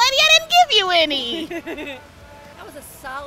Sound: laughs

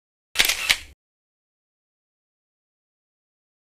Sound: camera click

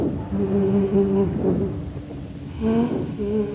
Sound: female humming

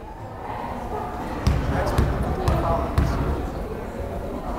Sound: crowd chattering

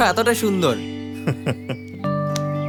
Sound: laughs

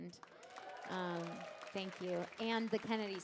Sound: audience cheering

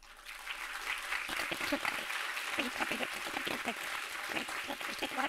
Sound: audience applauding

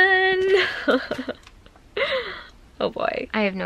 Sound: giggles

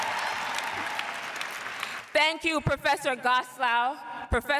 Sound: cheers and applause

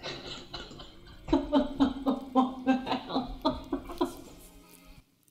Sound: laughs

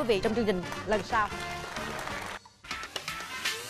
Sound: applause

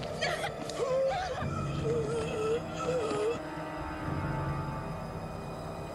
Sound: Ceri gasping; zombie groaning

